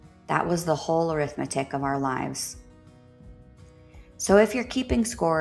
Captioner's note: a breath